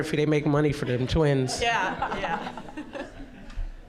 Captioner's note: audience laughing